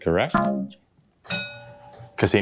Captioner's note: bell dongs, then dings